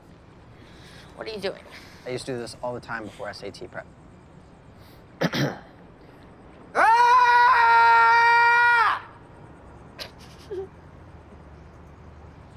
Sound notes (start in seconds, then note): 5.2 clears throat; 6.7 loud, long yell; 10.0 Bea chuckles